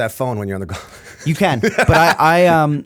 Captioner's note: laughter